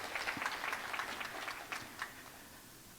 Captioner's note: applause